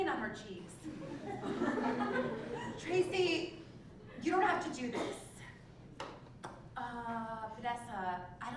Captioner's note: laugh